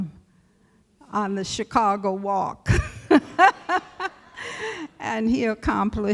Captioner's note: laughter